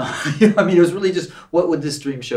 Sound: Gregg laughs

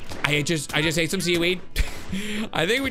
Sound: laughs

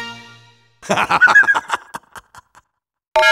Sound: BLU Boat Engineer laughs

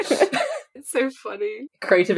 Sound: laughing

